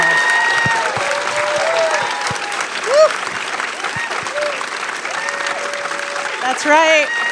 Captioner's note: applause